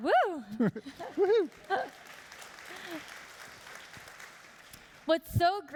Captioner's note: applauding